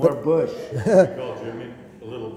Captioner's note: laughter